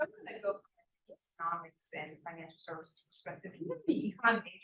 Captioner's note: sound distorted; sound distorted